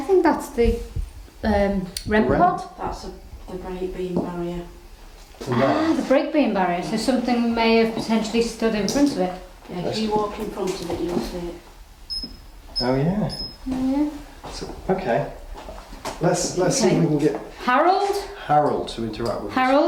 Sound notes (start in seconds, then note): 13.3 beep